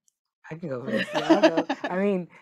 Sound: group laughing

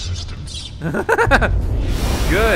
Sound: laughs

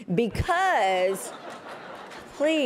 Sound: laughter

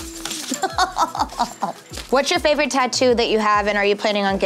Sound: laughter

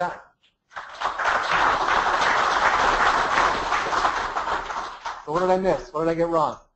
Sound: applause

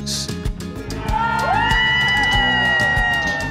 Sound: cheering!

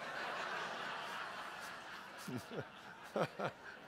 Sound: audience laughs

